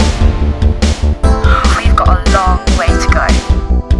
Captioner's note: sighs